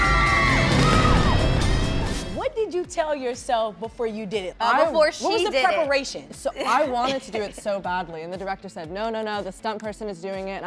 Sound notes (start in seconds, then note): 0.9 splashes